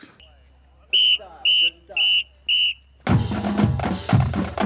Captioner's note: whistle blows